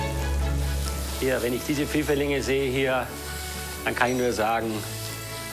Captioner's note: speaking foreign language